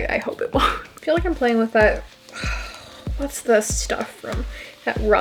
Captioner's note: sigh